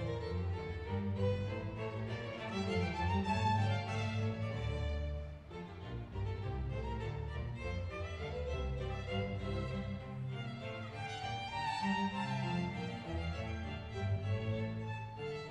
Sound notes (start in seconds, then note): none